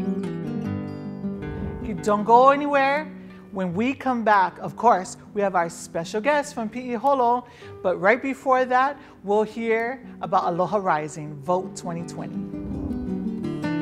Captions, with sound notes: Don't go anywhere, when we come back, of course, we have our special guest from Piiholo. But right before that, we'll hear about Aloha Rising Vote 2020. (air swishes) (air swishes)